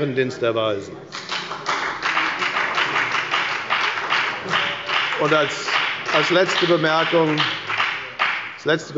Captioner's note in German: Beifall bei der FDP – Unruhe bei der CDU